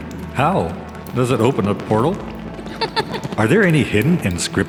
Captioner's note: Mila laughs